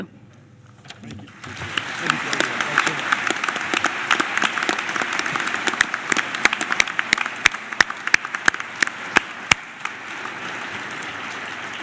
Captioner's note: applause